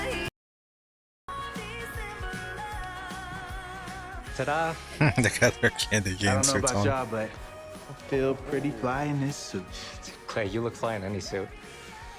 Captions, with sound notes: [Chuckling] They've got their candy cane suits on.